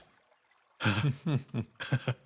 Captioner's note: sighs